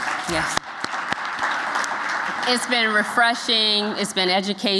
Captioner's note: applause